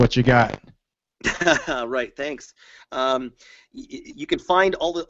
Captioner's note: laughs